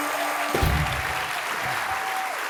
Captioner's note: applause